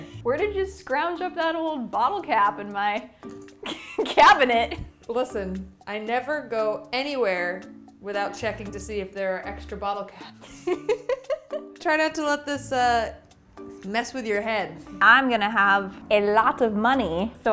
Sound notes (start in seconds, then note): 3.6 chuckles; 10.4 chuckles